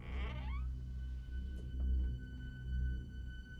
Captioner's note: door creaking